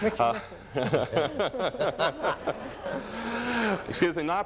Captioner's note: laughs